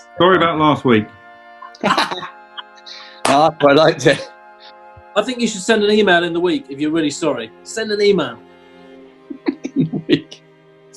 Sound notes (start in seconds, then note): 1.6 laughing; 9.3 chuckles